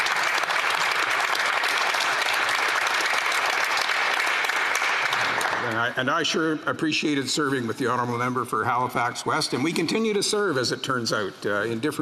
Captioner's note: some Applause